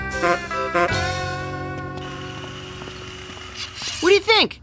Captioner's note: honking